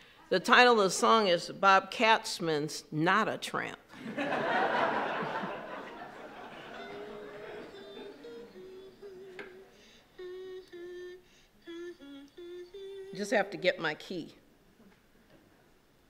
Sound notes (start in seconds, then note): 4.0 laughing; 4.2 she hums a tune